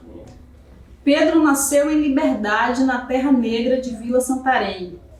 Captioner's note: speaking portuguese